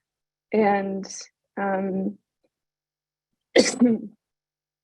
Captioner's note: sneeze